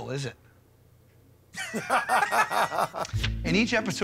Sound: both laugh

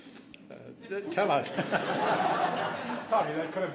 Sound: laughs

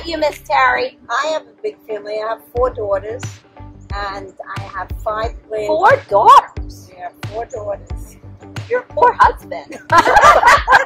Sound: laughing

